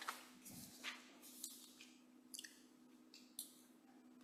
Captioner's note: papers rustling